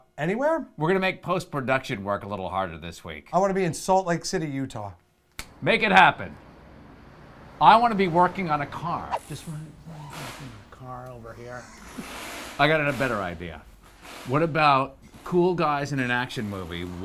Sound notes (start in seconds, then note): 5.3 snaps fingers; 9.3 wheel guns whir